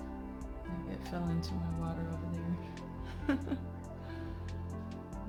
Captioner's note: laugh